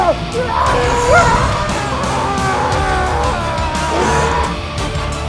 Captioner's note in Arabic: رجل يصرخ; موسيقى مكثفة